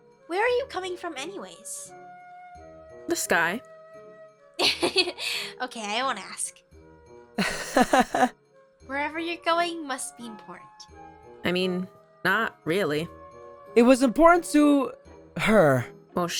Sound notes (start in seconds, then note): 7.4 awkward laugh; 7.4 laughs